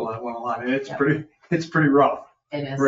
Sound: chuckles

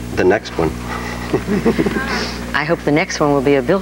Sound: audience laughs

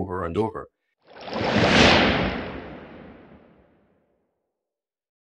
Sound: whooshing sound effect

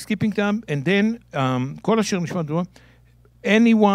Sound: speaking in Hebrew

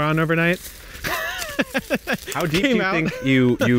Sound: laughing

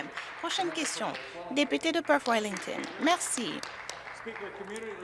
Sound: some Applause

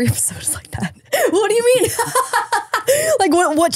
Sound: laughs

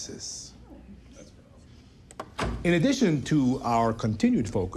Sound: executives murmuring; door opens

